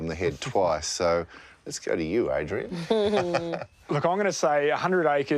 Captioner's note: laughs